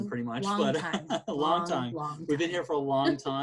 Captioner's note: chuckles